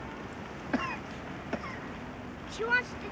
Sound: coughs

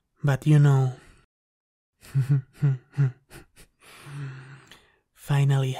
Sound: chuckles

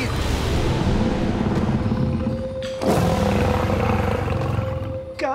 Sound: snarling

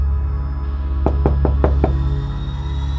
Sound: knocking on door

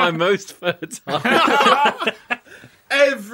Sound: laughter

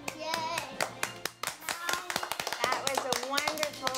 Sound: clapping

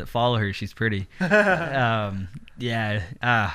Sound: soft laughs

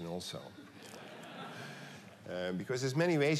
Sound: laughter

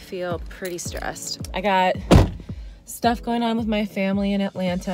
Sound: door slams

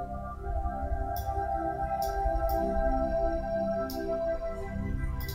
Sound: mouse clicking

